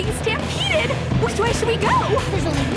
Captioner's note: shouting